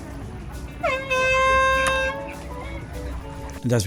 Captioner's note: horn sounds